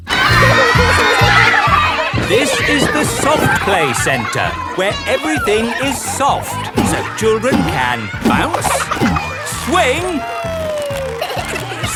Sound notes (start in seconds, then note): 2.8 loudly over shouting